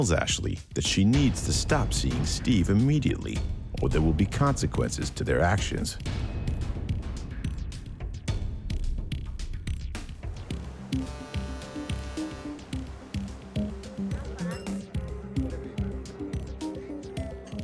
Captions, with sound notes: or there will be consequences to their actions. (ship horn blasts) (glasses clink) Steve orders dinner for himself and Laura,